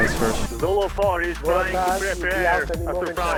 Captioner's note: radio chatter